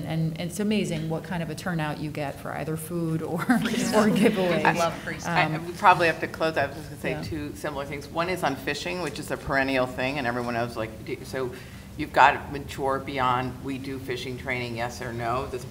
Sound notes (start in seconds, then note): 6.8 speaking faintly